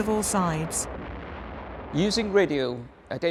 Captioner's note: booms exploding